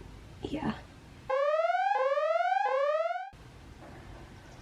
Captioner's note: siren noise